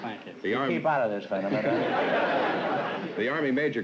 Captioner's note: laughter